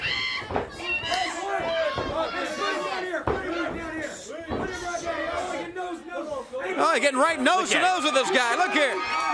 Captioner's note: crowd chatter